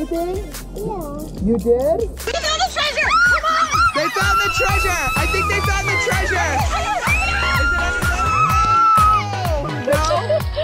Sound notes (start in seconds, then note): 0.0 upbeat music; 4.5 screaming